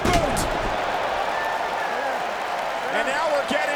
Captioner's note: crowd cheering